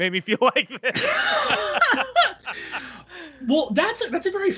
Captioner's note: laughing